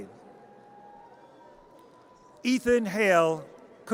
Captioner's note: audience cheers